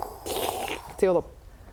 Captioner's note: slurp